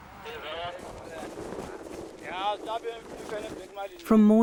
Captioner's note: speaking in foreign language